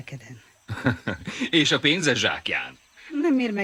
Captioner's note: chuckles